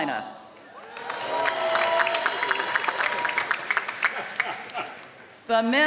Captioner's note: applause